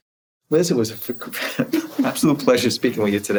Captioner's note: laughing